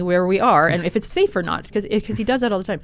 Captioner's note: laughs